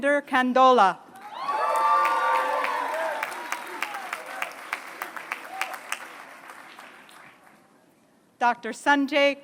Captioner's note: applause